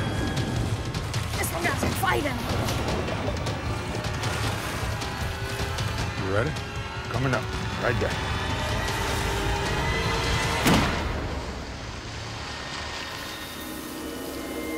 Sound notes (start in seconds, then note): 10.6 gunshot